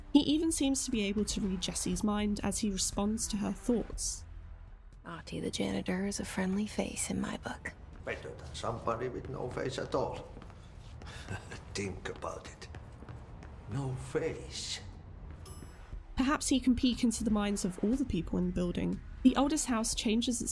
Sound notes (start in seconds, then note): 11.0 laughs